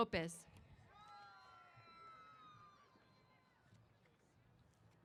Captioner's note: cheers